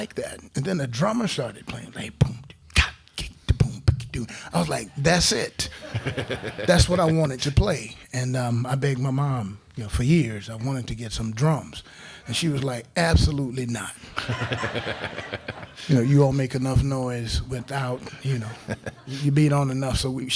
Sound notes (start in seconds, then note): 2.0 beat boxing; 5.6 crowd laughing; 14.1 crowd laughing